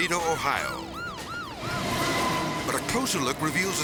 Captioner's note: siren wailing; train rustling